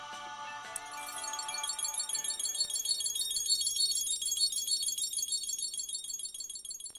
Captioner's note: high-pitched twinkling